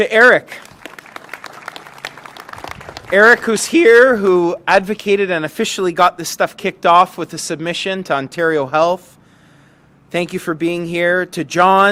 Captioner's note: applause